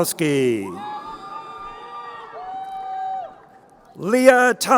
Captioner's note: crowd cheering